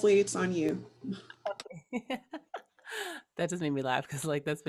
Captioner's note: laughing